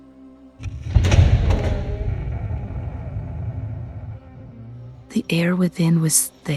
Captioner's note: heavy Door Creaking